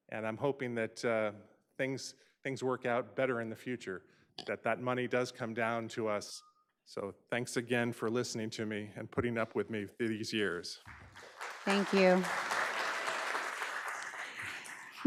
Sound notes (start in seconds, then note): 10.8 audience applauds